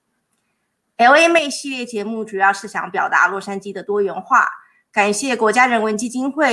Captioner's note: speaking in foreign language